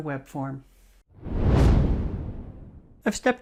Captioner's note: air whooshing